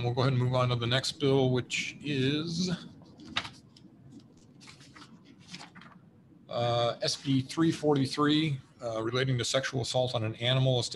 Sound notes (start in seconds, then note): 4.0 papers rustle